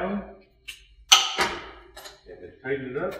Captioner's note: metal clinking